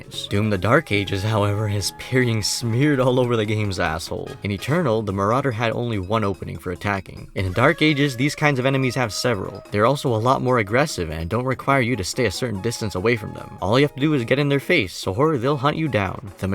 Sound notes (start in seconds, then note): none